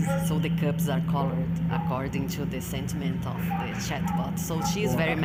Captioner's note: speaking off mic